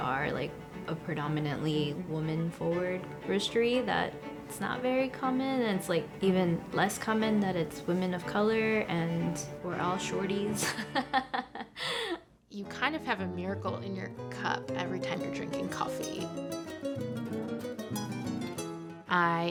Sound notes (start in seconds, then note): 10.6 laughing; 17.1 upbeat music